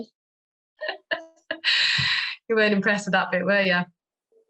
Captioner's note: laughs